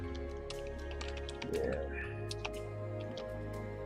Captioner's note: typing